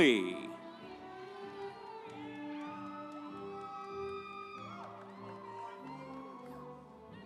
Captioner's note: instrumental music; audience cheering